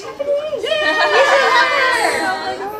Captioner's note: all cheering